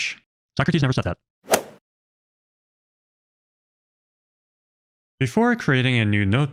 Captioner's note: golf ball hit sound effect